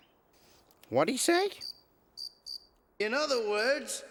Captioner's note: crickets chirping